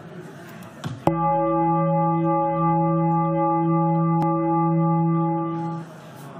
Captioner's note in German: Gong